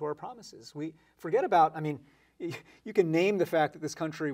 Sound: chuckles

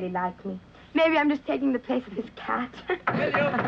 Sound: chuckles

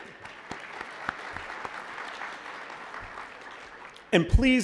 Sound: applause

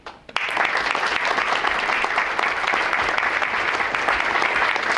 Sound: audience claps

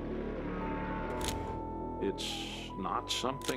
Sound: camera shutter

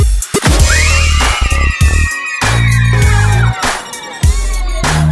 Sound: girls cheer

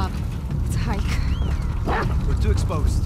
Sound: whistles

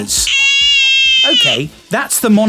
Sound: baby crying

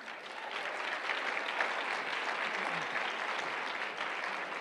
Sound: applause

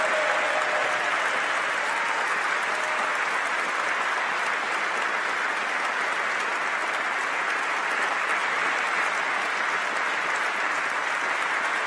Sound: applause

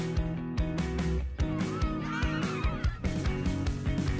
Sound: children laughing

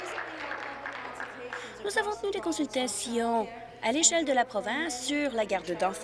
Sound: applause

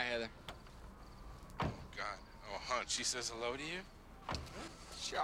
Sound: car door closes

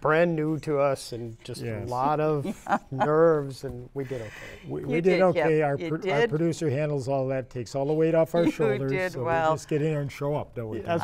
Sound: laughter

